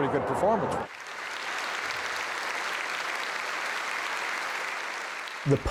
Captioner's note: audience applauds